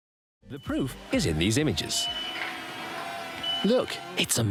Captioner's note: machinery beeping